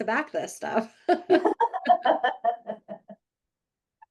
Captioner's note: both laughing